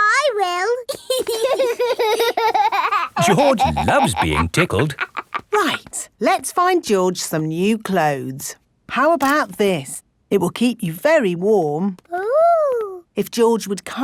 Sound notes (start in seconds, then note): 0.9 laughing